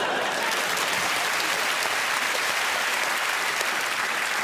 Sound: applause

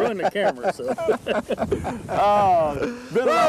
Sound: laughter

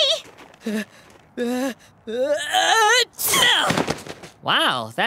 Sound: sneezing

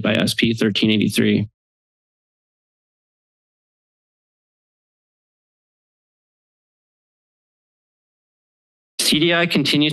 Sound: silence

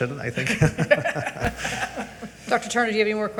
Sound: all giggling

